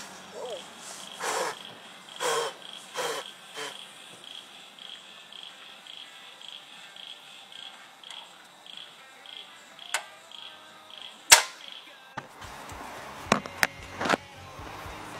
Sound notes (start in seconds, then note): 3.0 suspicious fire noises; 11.2 new camp stove tings